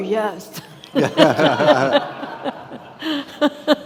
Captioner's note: all laughing